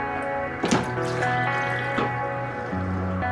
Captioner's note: water dripping